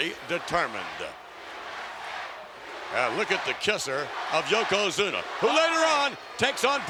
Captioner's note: applause